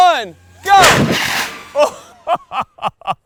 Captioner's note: cannon firing; laughing